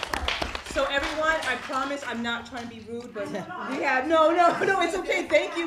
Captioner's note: applause